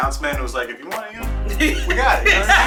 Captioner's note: laughing